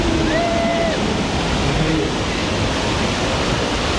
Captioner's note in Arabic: هتاف الركاب